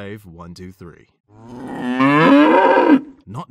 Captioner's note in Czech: napodobuje mučící krávu